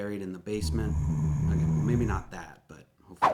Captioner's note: growling